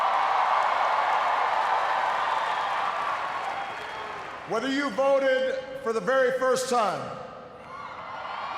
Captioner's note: cheers, applause; cheers